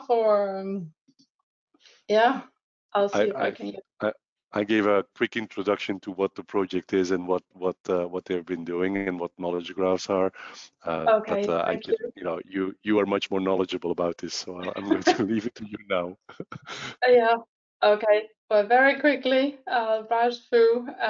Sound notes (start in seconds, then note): 14.6 laughing; 16.5 laughs